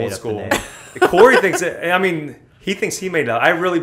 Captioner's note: laughter